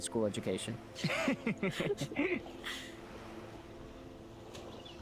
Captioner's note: both laughing